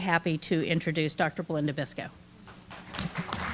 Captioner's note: clapping